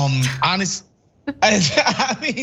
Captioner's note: laugh